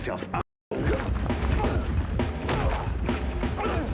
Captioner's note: men grunt; upbeat music